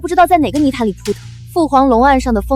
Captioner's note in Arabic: صوت ارتطام